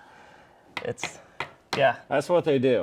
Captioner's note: tapping card on table